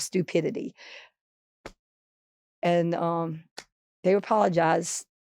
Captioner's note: hand tapping